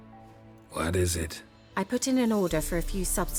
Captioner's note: wearily